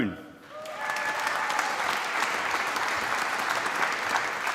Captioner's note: applause